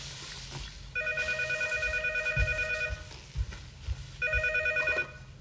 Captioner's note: phone ringing